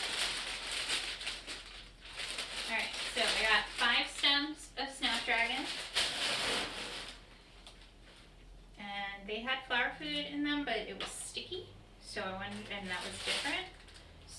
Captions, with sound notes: All right, so I got five stems of Snap Dragon. (crinkling) And they had flower food in them, but it was sticky. So I wonder, and that was different.